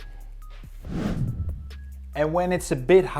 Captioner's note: transition whooshes; upbeat music continues